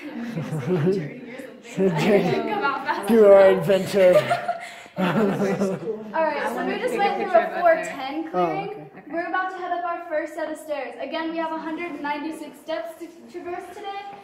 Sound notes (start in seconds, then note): 0.0 laughter; 3.8 laughter